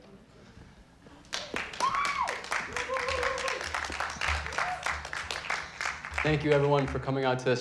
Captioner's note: audience clapping and hollering